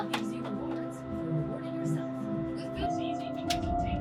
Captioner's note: door knock